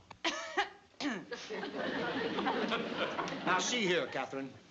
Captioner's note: coughing